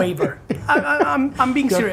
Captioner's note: laughing